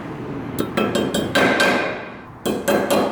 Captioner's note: bangs